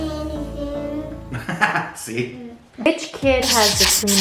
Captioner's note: laughs